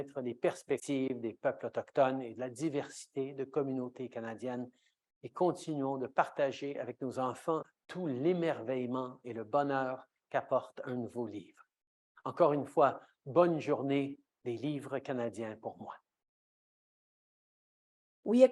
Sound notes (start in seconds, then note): 5.0 speaking French